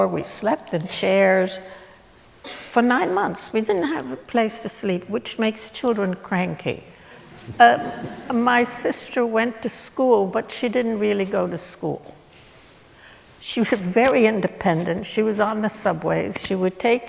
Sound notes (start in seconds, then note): 7.1 laughter